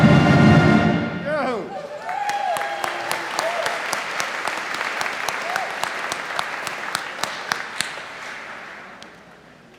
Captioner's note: applause